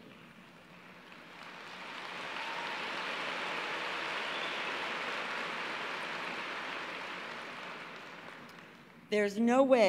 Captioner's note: applause